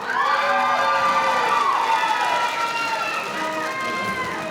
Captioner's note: audience applauding